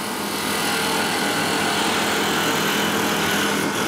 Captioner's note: machine noise